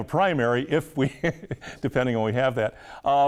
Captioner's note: laughing